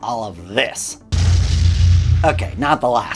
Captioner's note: explosion booms